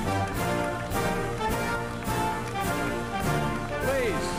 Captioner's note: applause